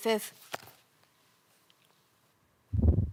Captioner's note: rustling; click; whoosh